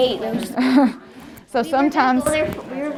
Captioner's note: laughs